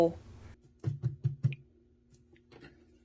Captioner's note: excited taps on cardboard